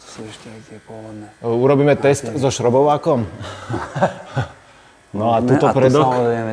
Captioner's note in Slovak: smiech